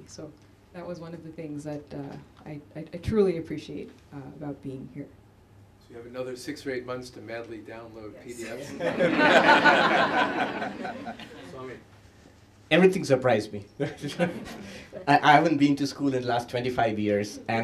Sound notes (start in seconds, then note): 8.5 laughter